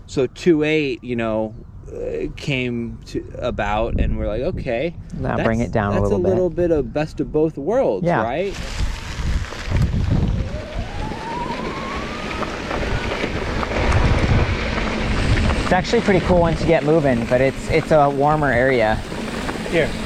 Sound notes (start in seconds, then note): 9.0 bike humming; 9.0 dirt rustling